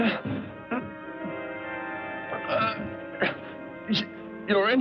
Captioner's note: brakes screech